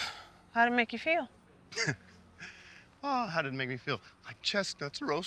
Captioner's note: chuckles